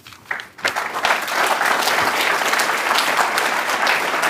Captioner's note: applause